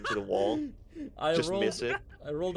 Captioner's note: laughs